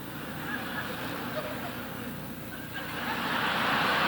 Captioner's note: audience laughing